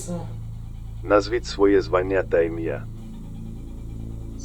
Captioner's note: radio